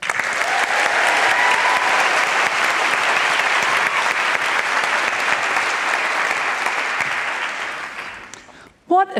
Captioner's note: applause